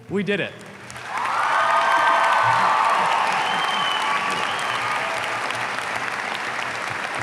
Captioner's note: audience applauds; audience cheers